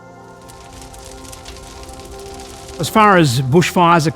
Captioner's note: fire crackles